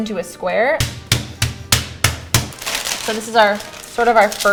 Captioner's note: banging